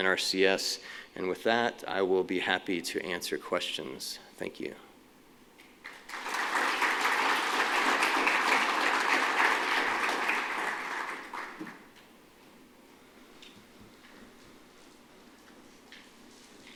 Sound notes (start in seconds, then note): 5.8 applause